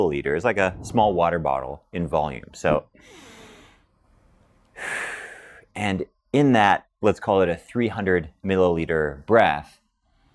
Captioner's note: inhales